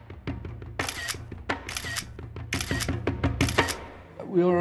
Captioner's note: rhythmic drumming; camera clicking